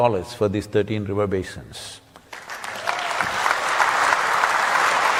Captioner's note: cheering/Applause